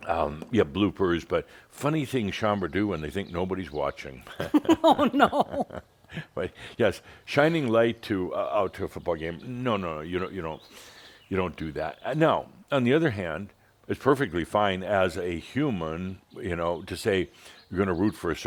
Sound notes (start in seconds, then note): 4.2 laughing; 5.8 Adamus chuckles